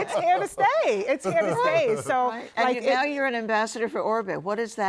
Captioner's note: laughter